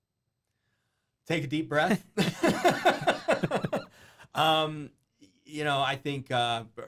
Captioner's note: laughing